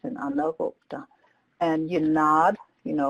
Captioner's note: speaks native language